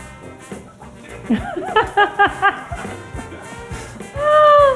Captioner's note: lively horn music; laughing